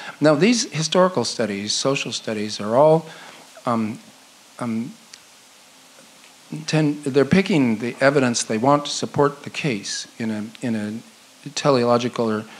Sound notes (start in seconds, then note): none